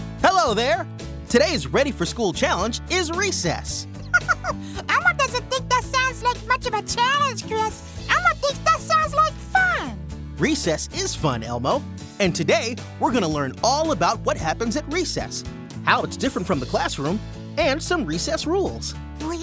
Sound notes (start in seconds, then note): 3.9 Elmo laughs